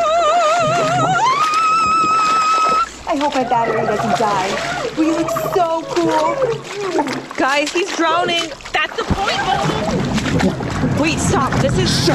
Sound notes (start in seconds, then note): 0.1 belts; 5.7 bubbles as Jim screams underwater